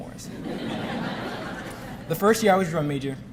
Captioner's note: audience laughing